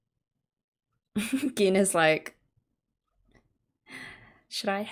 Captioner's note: laughs